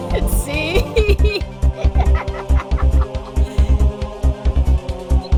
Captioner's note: laughing